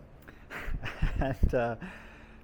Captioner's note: laughing